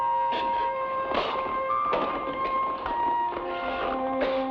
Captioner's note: man spits; somber music